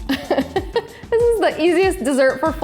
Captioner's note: chuckles